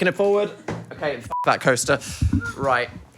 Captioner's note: beep